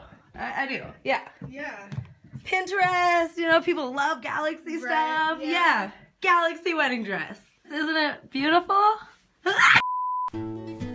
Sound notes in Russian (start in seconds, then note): 9.5 кричит